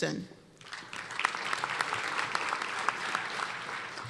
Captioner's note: applause